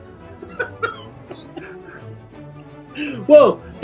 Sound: laughing

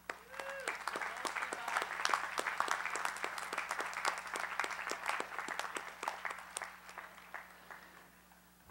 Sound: applause

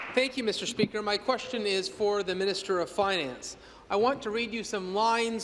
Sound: applause

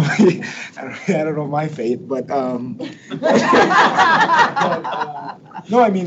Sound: people laugh

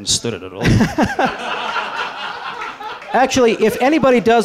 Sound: laughter

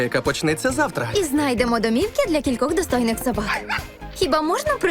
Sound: barks

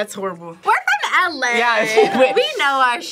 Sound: laughs

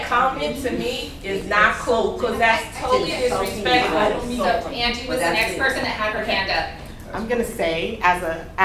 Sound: growing chorus of speakers

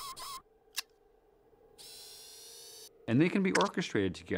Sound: clicks; whirring

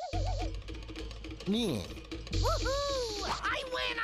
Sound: jeers

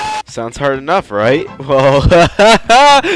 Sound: ha ha ha

